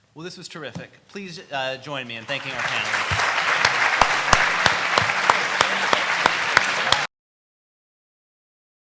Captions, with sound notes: - Well, this was terrific. Please, join me in thanking our panel. (audience applauds)